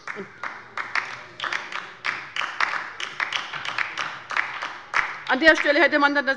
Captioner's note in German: Beifall bei der LINKEN